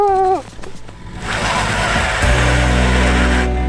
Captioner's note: wheels spin